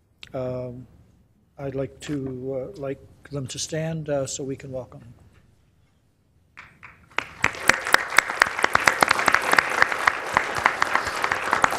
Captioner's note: applause